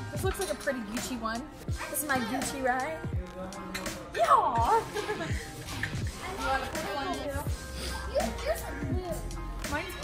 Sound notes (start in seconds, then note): 4.6 lauhing